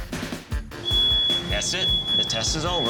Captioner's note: smoke detector alarm